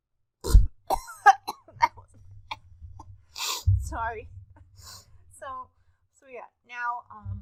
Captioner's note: coughs